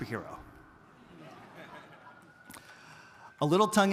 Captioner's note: audience laughing